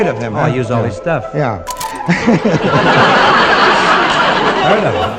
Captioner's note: audience laughing